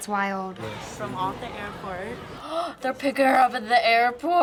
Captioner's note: gasps